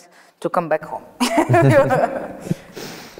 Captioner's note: laughs